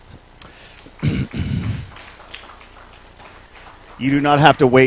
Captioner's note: applause